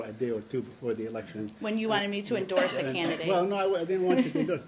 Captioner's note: laughter